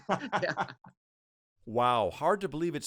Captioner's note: laughing loudly